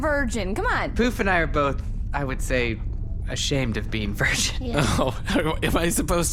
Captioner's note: slight laughing; laughing